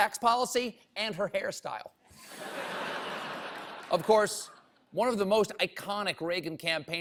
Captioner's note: laughter